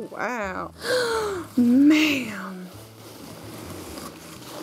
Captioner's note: gasps